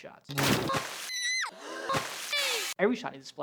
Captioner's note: assorted splashes, shrieks